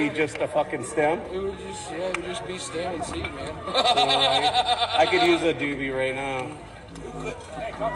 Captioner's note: laughter